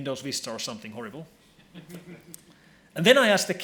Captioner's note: laughing